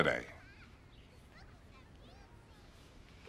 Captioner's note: children chattering